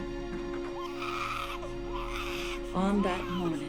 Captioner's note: pigs squealing